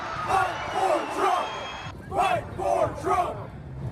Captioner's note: crowd chanting